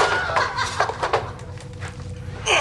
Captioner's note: Alersa cackles